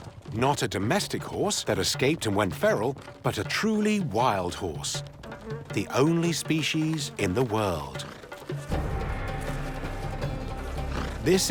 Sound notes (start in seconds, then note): 5.0 fly buzzing